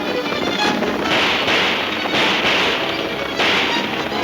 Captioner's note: guns firing